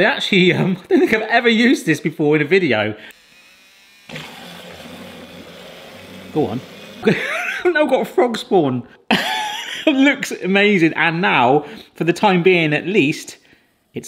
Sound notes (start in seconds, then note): 3.1 motor whirs; 7.0 laughs